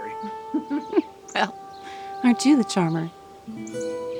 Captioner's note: chuckles